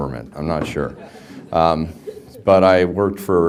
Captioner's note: background laughter